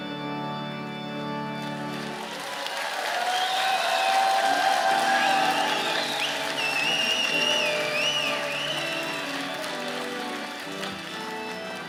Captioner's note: cheers and Applause